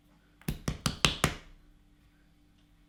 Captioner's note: tapping